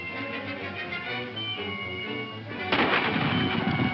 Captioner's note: dramatic music; gun firing; whooping